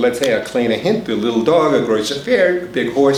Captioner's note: foreign language spoken